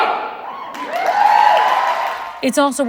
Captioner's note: audience cheering